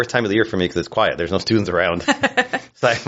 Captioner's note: laughs